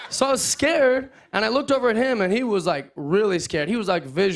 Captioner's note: none